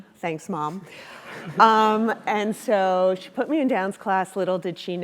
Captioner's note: laugh